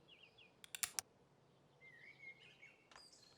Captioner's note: gun cocks